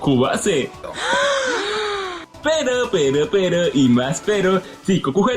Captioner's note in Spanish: ahhh mujeres sorprendidas